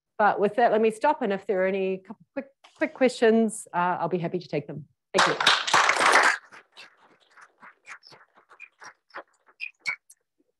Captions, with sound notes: But with that, let me stop. And if there are any quick questions, I'll be happy to take them. Thank you. [APPLAUSE]